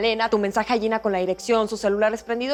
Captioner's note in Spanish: none